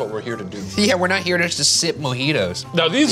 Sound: laughs

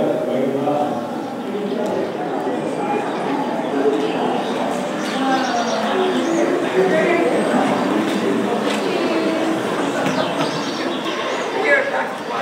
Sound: crickets chirping, birds singing

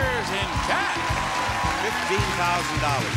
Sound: audience applauding

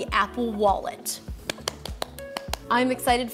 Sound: hands clapping

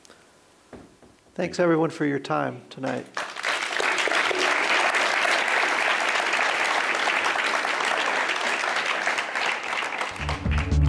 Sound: applause

